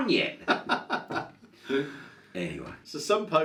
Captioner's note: laughs